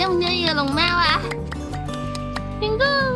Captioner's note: can't stop clapping